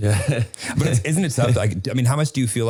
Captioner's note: Harry laughing